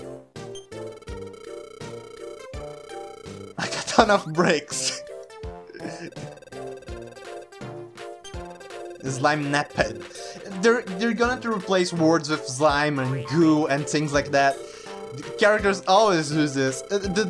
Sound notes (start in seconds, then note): 6.4 laughs